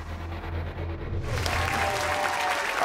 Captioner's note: dramatic music; audience cheering